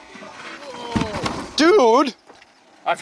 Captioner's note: Bob thuds